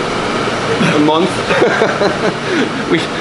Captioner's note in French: Rires